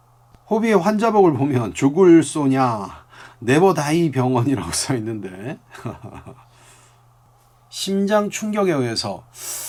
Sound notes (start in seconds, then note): 4.5 Korean